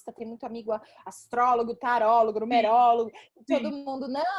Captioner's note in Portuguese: risos